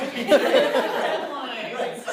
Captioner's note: laughter